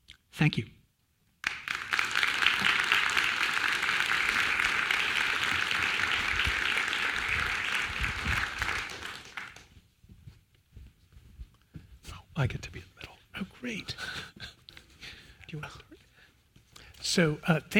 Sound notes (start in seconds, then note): 1.4 applause; 14.5 laugh